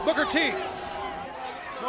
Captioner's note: crowd chatter